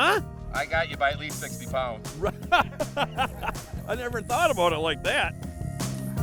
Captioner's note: laughing